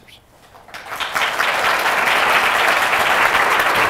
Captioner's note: applause